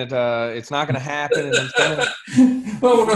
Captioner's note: laughs